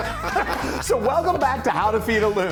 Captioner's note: laughing